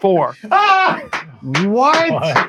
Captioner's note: clapping